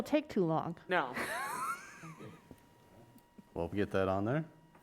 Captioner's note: laughs